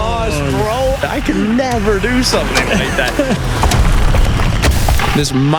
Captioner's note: chuckles